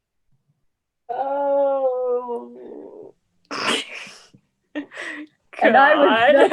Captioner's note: laughs